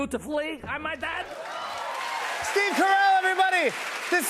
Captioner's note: cheers and applause